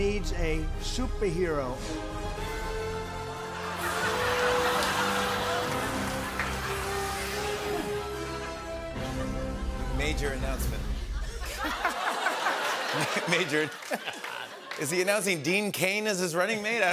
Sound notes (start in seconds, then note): 1.9 dramatic music swells; 3.6 laughter; 11.1 laughter